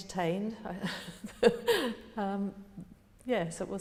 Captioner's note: laughing